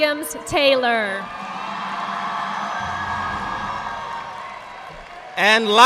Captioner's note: audience applauding